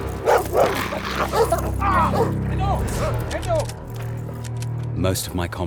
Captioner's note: dogs barking; dog growls; screams